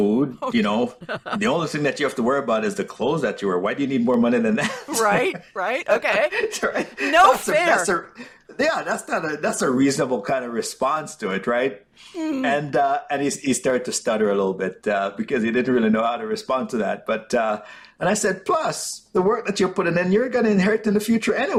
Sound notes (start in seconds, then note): 4.4 laughter